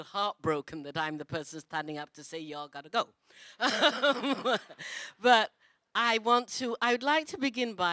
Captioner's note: laughs